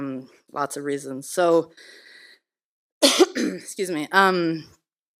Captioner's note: coughs